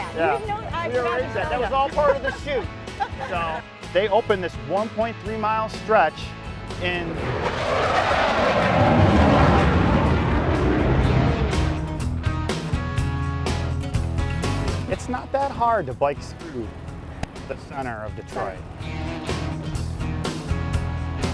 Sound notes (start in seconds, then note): 1.8 laughter; 7.1 plane engine